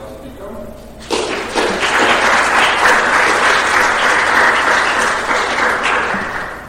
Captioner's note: applause